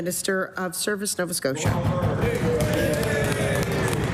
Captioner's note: some Applause